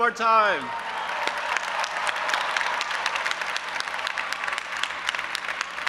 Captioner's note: audience applauding and cheering